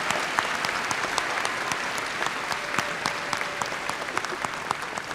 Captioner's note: cheers and applause